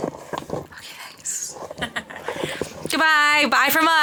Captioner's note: chuckles